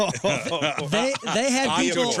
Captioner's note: laughing